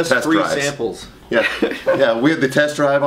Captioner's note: laughs